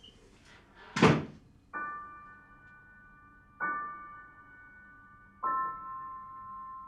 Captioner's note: door thuds; slow melancholic music